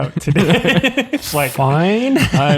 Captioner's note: all laughing